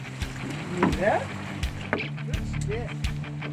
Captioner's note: reel spinning